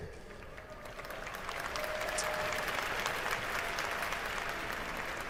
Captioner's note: applause